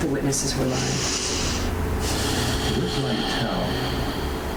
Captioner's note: Sabine sighs